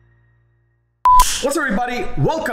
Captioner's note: beeping